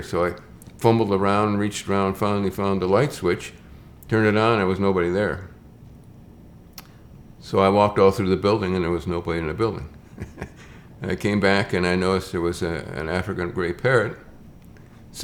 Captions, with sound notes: So I fumbled around, reached around, finally found the light switch, turned it on. There was nobody there. So I walked all through the building and there was nobody in the building (chuckles). And I came back and I noticed there was an African gray parrot